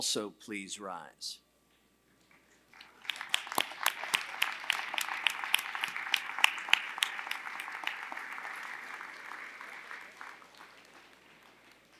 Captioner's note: applause